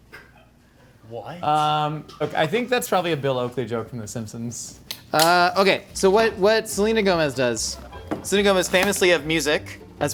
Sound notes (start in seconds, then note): 4.8 plastic cap snapping